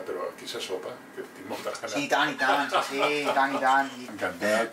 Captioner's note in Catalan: Risas